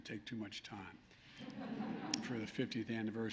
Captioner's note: laughter